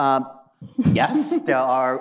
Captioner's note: laughs